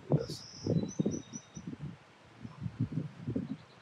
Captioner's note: birds chirping